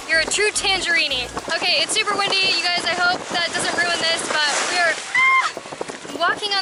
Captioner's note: screams